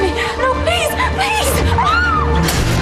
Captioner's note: Menangis